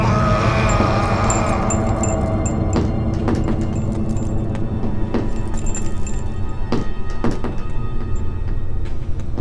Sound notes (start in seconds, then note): 0.1 screaming; 2.8 tapping